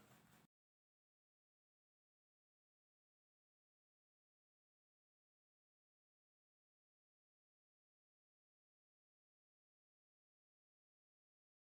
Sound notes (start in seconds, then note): 2.2 silence again